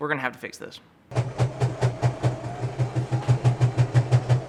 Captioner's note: whirs